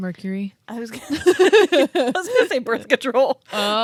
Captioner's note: both laugh